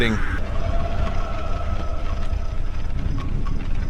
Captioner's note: distant distressed wailing